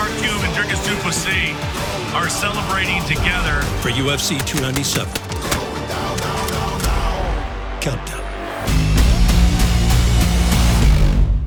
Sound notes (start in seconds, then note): 4.2 gun firing rapidly; 4.3 gun racking and clicks; 5.0 man rapping